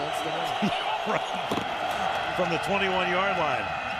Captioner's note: laughs